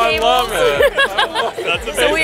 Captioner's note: laughs